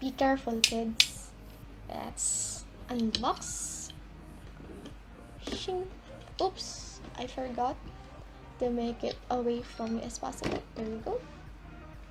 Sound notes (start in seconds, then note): 0.9 cutter noises again